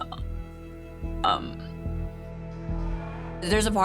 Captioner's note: voice breaking